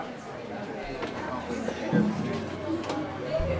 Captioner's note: audience chatter